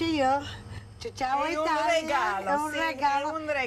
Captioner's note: speaking Italian